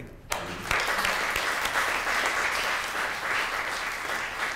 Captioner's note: audience applause